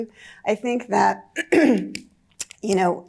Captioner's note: clears throat